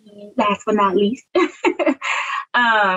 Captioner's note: laughs